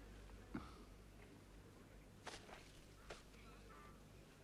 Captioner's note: Pateray chuckles